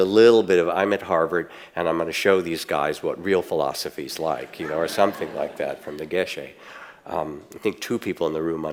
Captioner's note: audience laughts